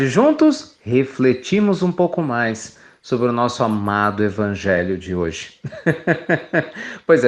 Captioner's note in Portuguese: Risos